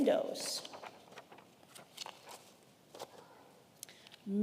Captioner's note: paper rustling